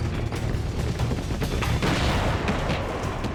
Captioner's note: gunfire